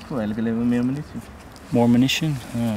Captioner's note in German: Männer unterhalten sich